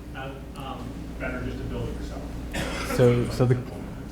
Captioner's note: voiceover